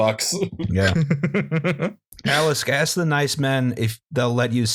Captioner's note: laughter